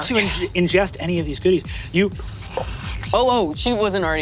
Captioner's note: sucking